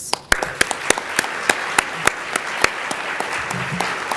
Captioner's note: audience applauding